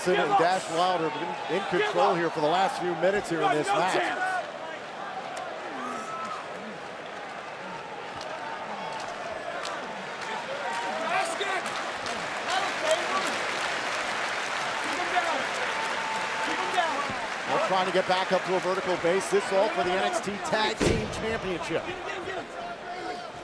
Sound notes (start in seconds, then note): 4.4 crowd cheering